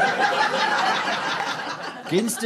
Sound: audience laughter

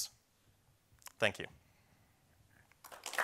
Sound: applause

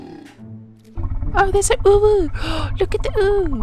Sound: excited noises

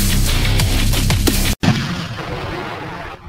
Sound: cannon sound

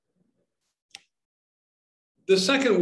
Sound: slide clicks

